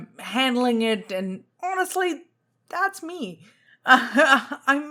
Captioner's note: laughs